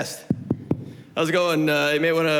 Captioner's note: knocks